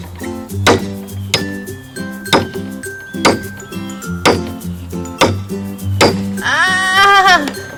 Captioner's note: hammering; brother crying